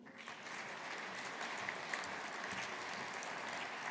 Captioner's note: audience applauding